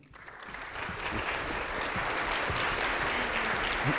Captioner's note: applause